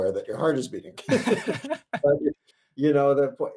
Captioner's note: both laughing